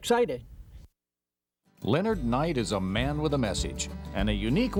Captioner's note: voiceover